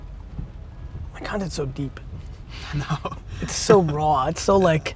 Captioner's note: laughs